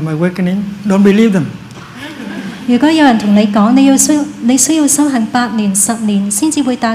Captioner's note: laughter